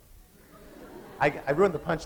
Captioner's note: laughter